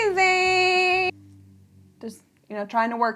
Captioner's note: car engine revving